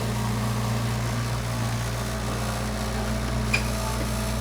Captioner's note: forklift rumbling